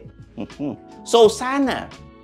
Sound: scoffs

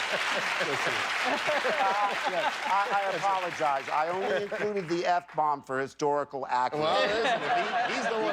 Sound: laughter; cheers and applause

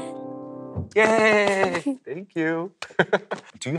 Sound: laughs

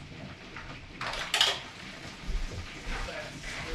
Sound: door clicking

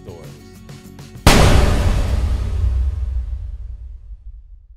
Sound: metal clanking

